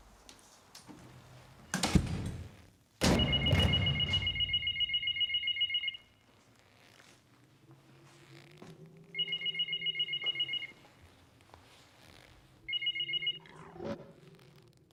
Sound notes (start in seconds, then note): 3.1 phone ringing